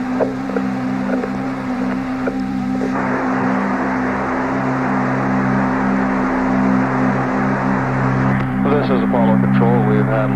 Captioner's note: static